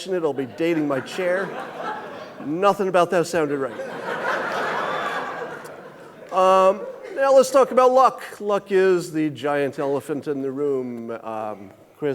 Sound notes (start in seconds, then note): 4.2 audience laughing